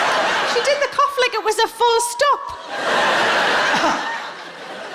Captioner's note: audience laughing; coughing